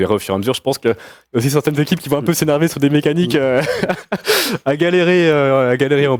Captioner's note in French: rires